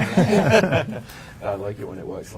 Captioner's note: panel laughing